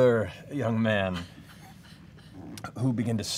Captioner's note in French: rires